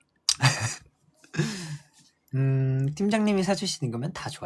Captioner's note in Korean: 웃음